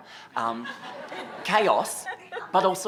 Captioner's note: laughter